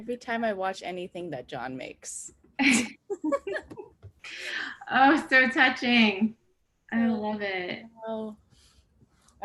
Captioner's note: laugh